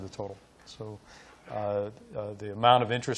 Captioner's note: none